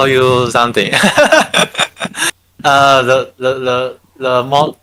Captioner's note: laughing